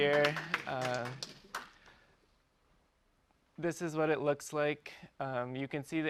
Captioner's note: applause